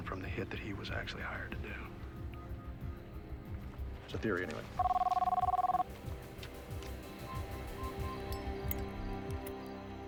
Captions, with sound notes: from the hit that he was actually hired to do. That’s the theory, anyway. [phone ringing]